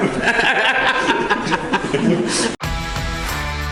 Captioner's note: happy laughter